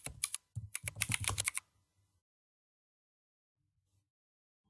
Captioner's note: typing